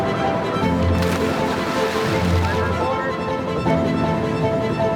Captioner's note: water splashing